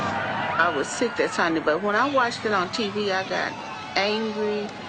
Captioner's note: female voice